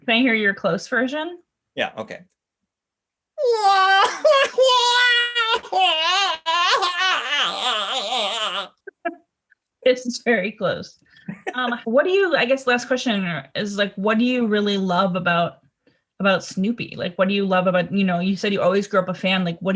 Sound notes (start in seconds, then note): 3.4 goofy wailing